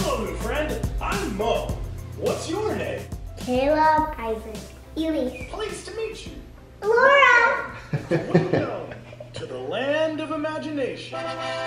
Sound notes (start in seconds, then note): 7.7 laughing